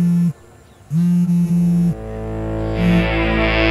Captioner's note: Phone buzzing